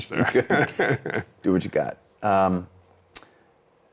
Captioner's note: laughing